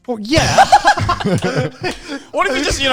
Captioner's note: all laughing quickly